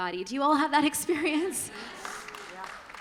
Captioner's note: applause